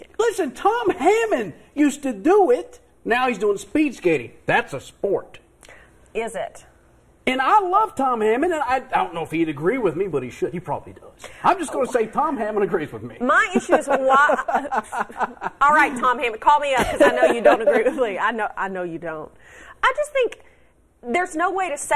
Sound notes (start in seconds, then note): 16.7 laughter